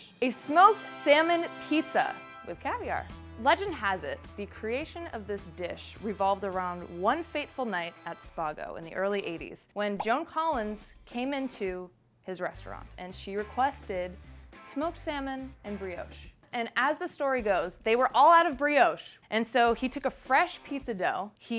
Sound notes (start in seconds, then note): none